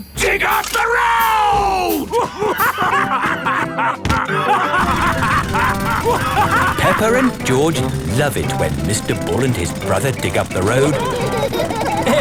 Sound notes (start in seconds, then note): 3.0 both laughing; 6.3 drilling; 12.0 laughing